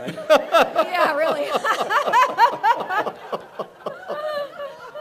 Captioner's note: laughs